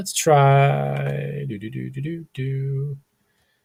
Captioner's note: humming